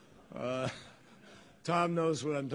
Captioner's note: laughter